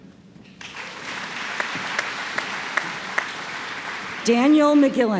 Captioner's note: applause